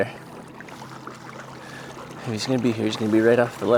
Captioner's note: water lapping gently